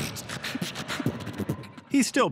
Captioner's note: beatboxing